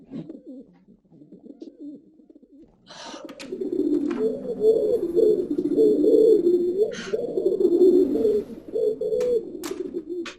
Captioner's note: louder pigeon sounds